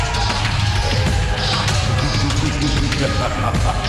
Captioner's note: audience cheering